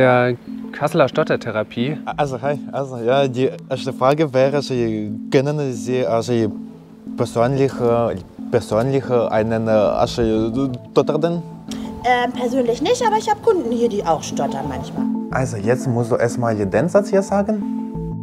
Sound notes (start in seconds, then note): 6.7 stuttering